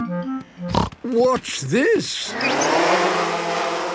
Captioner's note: snorting